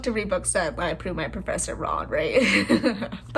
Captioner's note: laugh